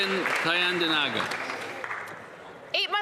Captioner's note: applause